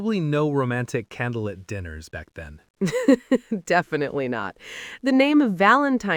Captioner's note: laughs